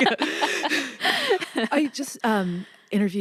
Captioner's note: laughs